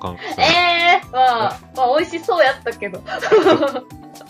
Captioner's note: laughter